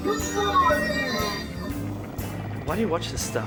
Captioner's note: groans